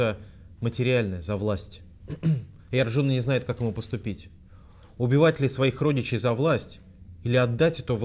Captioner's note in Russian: откашлялся